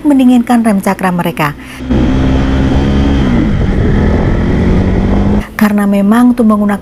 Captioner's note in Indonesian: suara sepeda motor